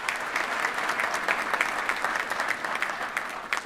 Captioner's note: applause